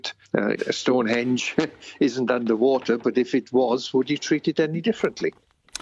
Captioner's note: chuckles